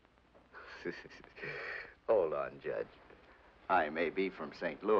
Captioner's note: Smiley chortles sarcastically